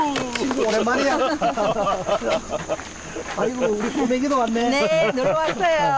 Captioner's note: laughs